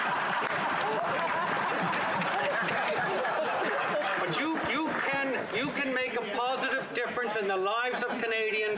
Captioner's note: laughter